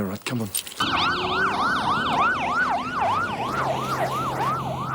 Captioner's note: sirens wailing